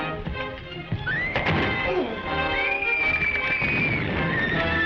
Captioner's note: Diana screams